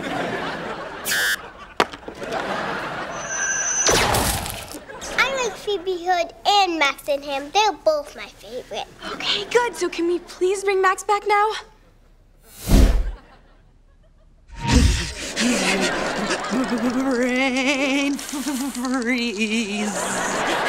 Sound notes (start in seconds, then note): 14.6 moaning